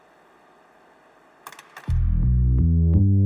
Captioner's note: static buzzing; switch clicking